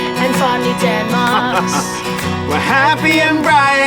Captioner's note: laughs